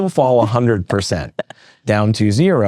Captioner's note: laughs